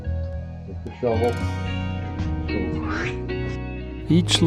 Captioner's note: swooshy sound